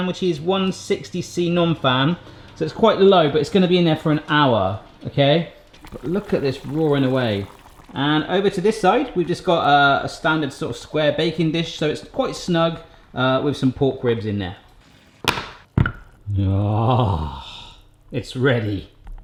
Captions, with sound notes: which is 160 C non-fan, so it's quite low, but it's gonna be in there for an hour, okay? Look at this roaring away. And over to this side, we've just got a standard sort of square baking dish, so it's quite snug with some pork ribs in there. (banging) (clanking) Ah, it's ready.